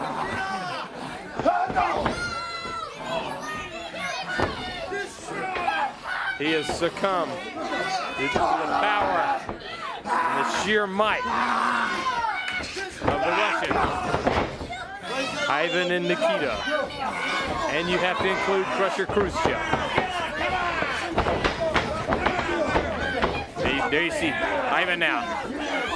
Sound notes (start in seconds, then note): 0.2 crowd chatter; 20.8 crowd chatter